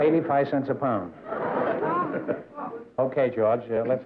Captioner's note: laughter